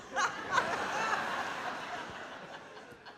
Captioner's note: laughing